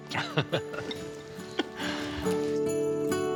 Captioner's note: laughs